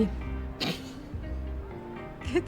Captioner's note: chuckle